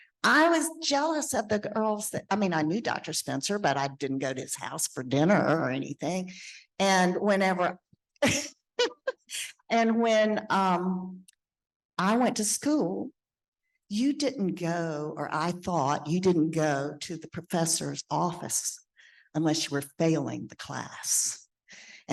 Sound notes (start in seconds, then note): 8.8 laughing